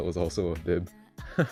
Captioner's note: laughs